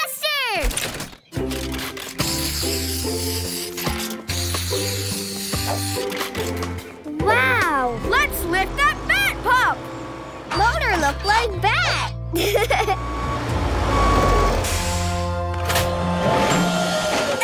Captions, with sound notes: Arf, spray blaster! -Wow. -Let's lift that bat pup! Motor look like bat. [giggling]